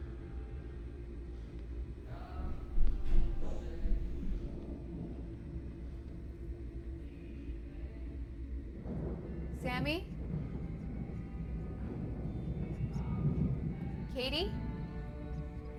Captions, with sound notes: (cheery, Western music) (running footsteps) - Sammy? Katie?